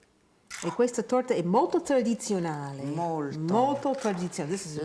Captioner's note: speaking Italian